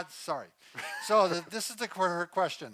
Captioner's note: chuckles